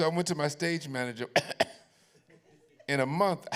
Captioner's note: coughs